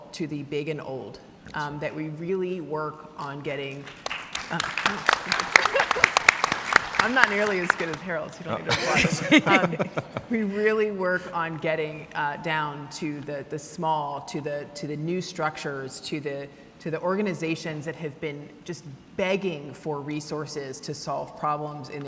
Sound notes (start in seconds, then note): 3.8 everyone clapping; 4.5 laughs; 8.5 laughing